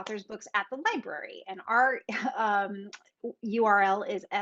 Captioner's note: chuckles